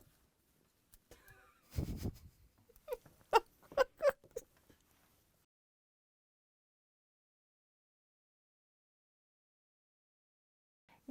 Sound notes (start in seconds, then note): 1.5 snickering; 5.4 no Sound Present